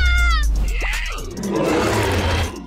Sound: screams; growls

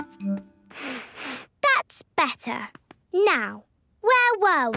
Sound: sniffs

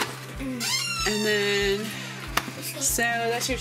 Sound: door creaking

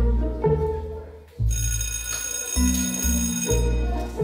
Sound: bell rings

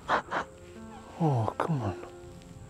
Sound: Brigit sobbing

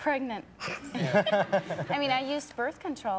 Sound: laughter

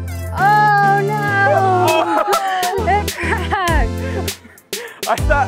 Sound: all laugh

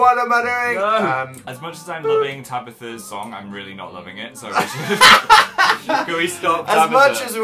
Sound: chuckles; shouty laugh

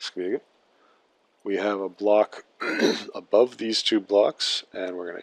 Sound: clears throat

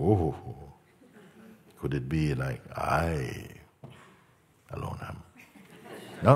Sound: uses arrogant tone; laughter

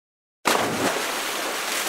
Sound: splash!

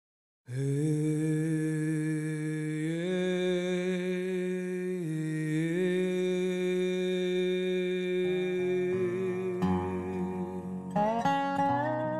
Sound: chanting

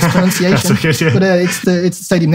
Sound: chuckles

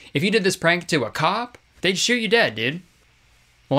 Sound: none

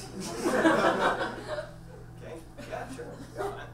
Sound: audience laughs

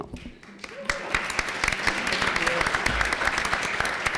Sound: applause

